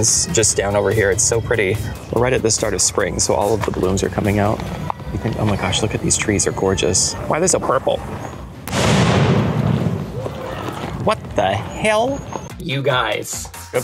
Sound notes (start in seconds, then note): 8.6 loud BOOM; 9.5 birds flying